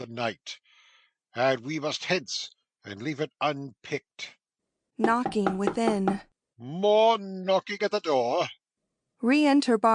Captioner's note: knocking within